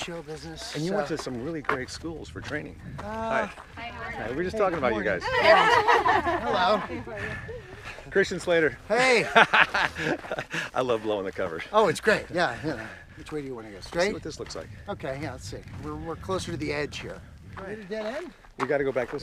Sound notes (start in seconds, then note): 5.2 women laugh; 9.0 laughs